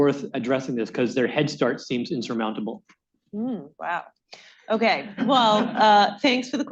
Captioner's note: laughter